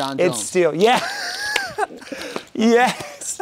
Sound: laughing

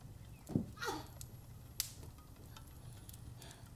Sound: Lilith grunts

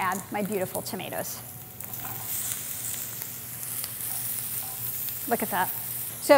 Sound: sizzling

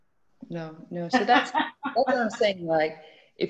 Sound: laughs

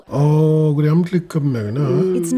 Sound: speaking Mi'kmaq

